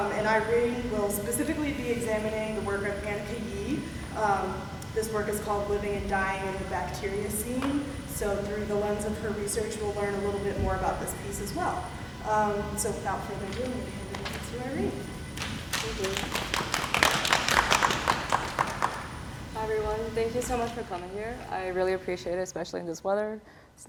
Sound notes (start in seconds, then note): 15.3 applause